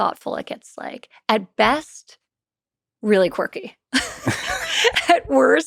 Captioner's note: laughs